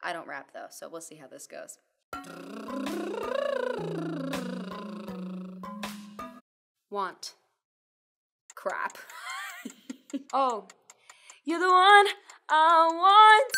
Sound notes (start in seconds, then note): 8.5 clock ticking; 9.1 laughing